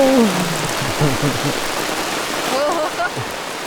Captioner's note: rain